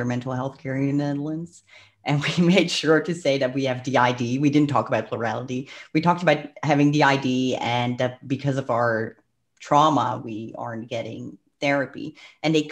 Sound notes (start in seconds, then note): 2.0 laughs; 5.6 breath